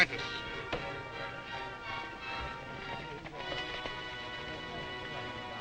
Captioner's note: horses galloping